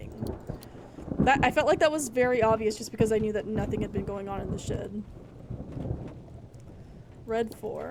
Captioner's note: thunder Rumbling